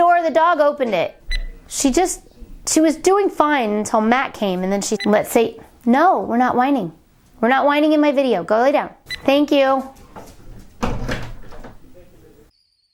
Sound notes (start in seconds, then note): 1.3 beep; 9.7 door closing